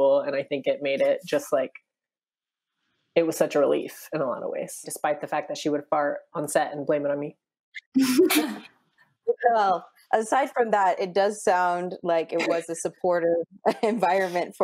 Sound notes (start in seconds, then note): 7.9 laughing